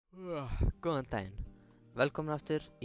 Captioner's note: yawn